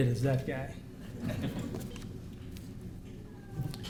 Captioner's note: laughter